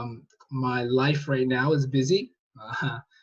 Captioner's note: chuckles